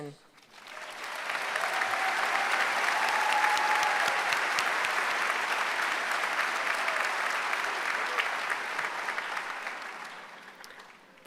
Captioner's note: applause